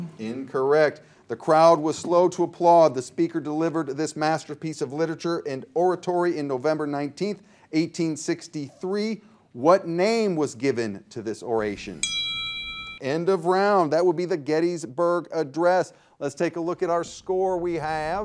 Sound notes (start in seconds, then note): 11.9 bell rings